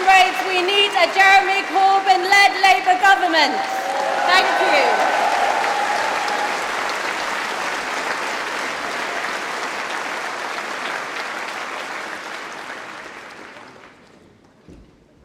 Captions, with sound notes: District Council in 2020 because someone has to tell them! (Applause) And that is why, comrades, we need a Jeremy Corbyn-led Labour Government. Thank you! (Applause)